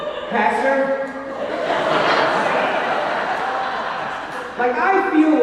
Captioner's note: audience laughing